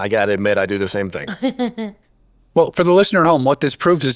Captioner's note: chuckles